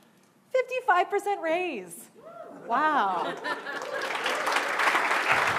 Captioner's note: cheering and clapping